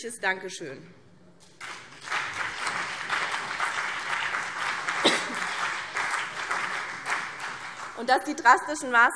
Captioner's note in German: Beifall BÜNDNIS 90/DIE GRÜNEN und CDU